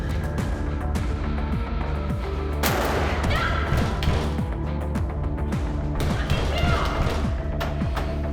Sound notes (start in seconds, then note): 2.6 heavy metallic door